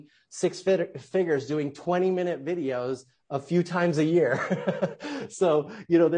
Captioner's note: laughing softly